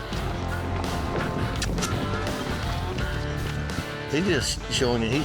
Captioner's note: makes squeaky sound